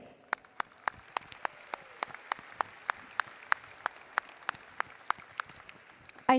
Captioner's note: applause